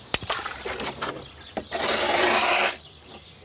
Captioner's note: scratching noise